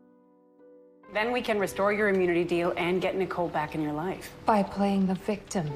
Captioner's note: voiceover